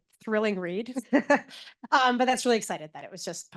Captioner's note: laughs